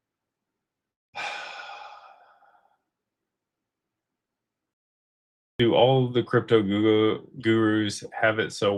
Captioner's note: sighs